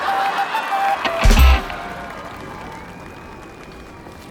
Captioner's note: screaming